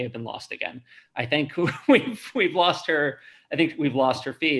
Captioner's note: chuckles